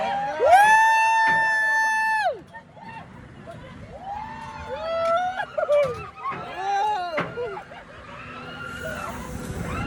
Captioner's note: others woo'ing too!